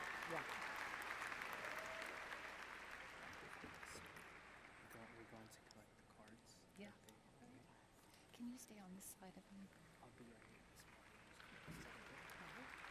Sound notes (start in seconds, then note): 0.0 applause